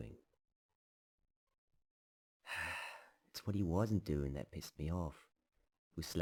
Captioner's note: sighs